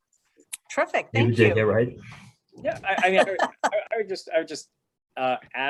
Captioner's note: laughter